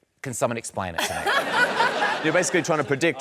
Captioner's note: laughter